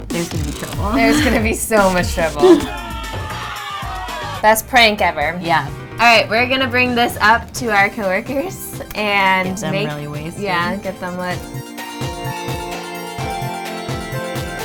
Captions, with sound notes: there's gonna be trouble. - There's gonna be so much trouble. (crowd yelling) Best prank ever. - Yeah. - Alright, we're gonna bring this up to our co-workers and make -- - Get them really wasted. - Yeah, get them lit. (upbeat pop music)